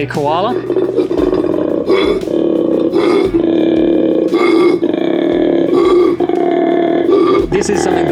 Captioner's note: koala bellowing